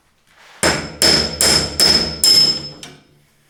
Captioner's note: hammering